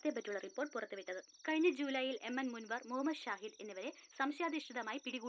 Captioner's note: TV news